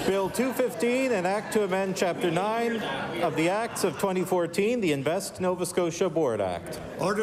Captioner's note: laughter